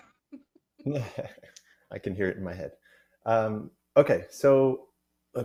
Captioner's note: chuckles